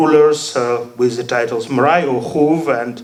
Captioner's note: speaking foreign language